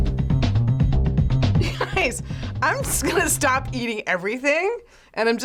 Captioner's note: chuckles